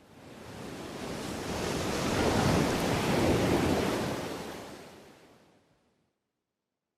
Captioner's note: waves splashing